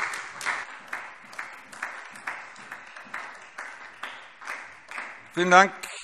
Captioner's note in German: Beifall SPD